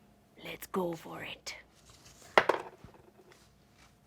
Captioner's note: dice roll